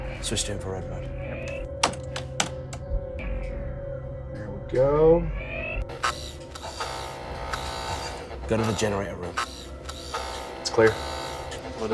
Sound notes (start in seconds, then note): 1.4 keboard keys clacking; 5.9 dramatic music